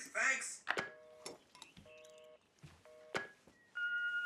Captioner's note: dial tone; machine beeping